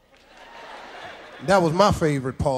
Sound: audience cheers

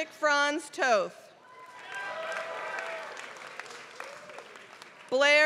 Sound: applause

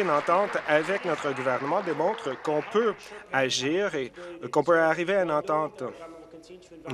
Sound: applause

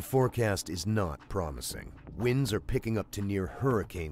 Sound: voiceover

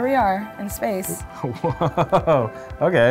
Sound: laughs

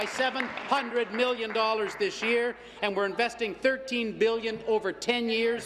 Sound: applause

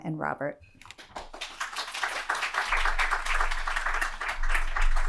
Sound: audience applauding

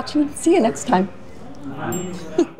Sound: customers chattering; customer chuckles

